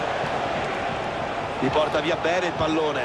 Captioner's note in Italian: Applauso